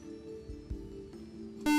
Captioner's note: beep